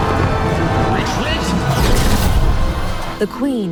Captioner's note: shouting